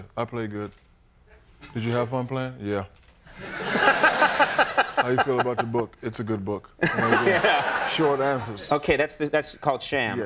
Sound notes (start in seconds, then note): 3.4 laughing; 6.8 audience laughing